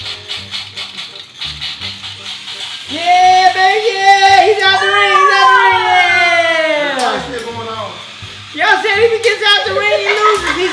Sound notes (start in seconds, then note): 6.3 shouts and laughs; 7.8 robots whirring